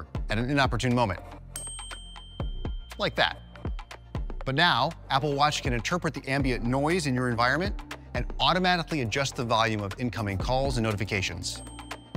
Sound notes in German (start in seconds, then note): 1.5 Klingeln